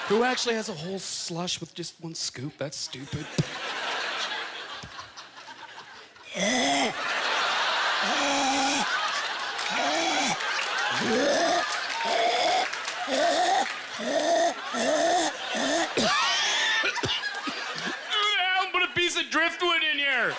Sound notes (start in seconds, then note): 6.4 horse throat sounds; 6.9 imitating choking; 16.6 coughing